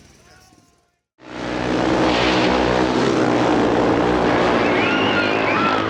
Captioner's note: crowd cheering; bikes droning; crowd cheering